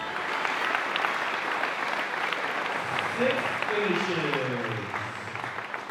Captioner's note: clapping